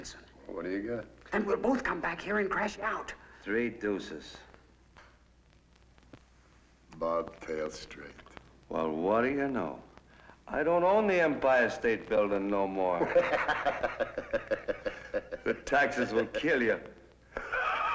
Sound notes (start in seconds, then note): 13.0 Louie giggling; 17.3 Mike giggling